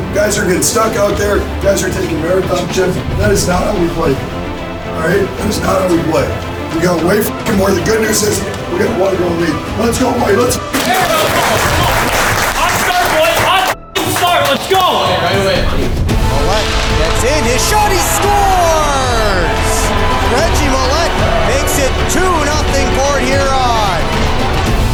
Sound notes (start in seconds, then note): 10.7 clapping; 16.8 broadcast commentary